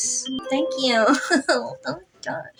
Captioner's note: giggle